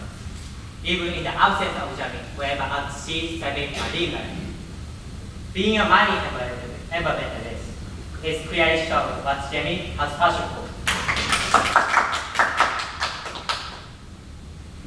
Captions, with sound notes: even in the absence of Jeremy whenever he is away at sea saving marine life . Being a marine environmentalist, is clearly showing what Jeremy has passion for. (claps)